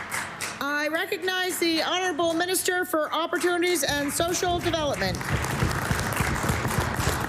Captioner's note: applause